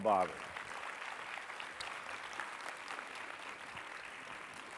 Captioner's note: audience applauding